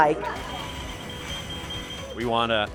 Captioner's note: equipment beeping